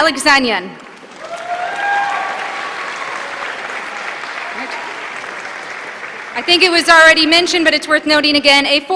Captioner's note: applause